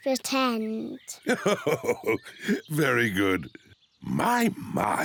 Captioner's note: laughs